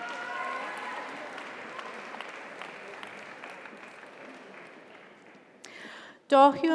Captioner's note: audience cheers; audience applauds